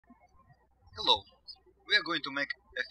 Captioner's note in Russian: птички щебечут